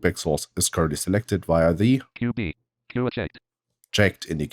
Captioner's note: automated voice